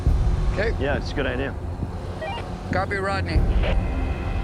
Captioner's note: walkie beeps